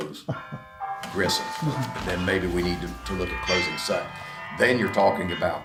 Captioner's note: phone rings